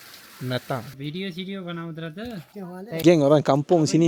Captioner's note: speaking Nepali